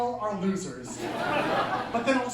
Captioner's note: laughter